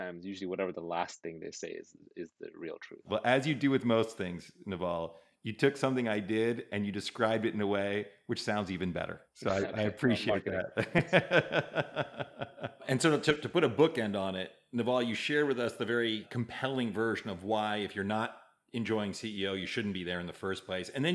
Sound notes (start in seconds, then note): 11.2 laughing